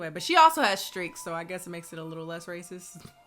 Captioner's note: none